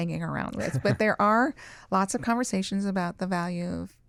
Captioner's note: chuckles